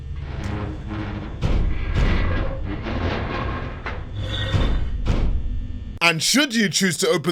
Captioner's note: metallic scraping and banging